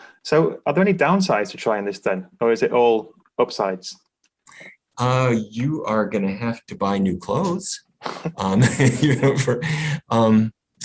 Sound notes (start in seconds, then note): 8.1 laughs